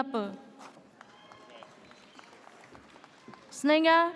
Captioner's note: audience cheers